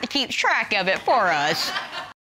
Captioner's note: audience laughing